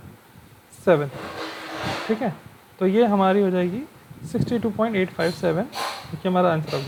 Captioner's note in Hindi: नाक से की जाने वाली आवाज़